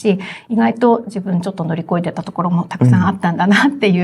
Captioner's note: laughs